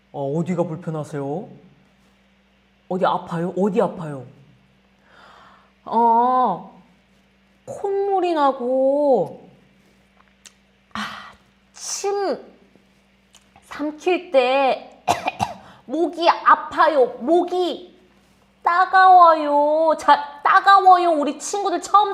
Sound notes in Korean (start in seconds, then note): 9.9 기침